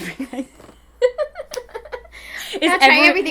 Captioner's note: both laughing